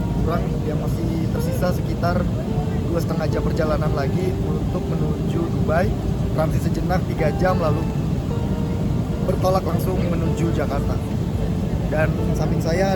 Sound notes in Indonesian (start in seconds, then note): none